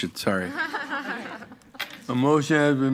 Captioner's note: members laughing